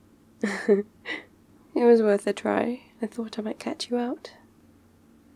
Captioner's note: laughs